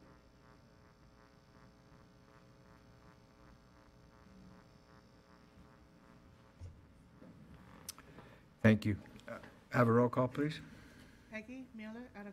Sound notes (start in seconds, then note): none